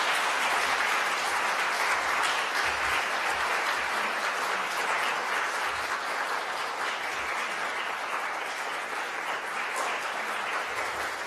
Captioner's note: applause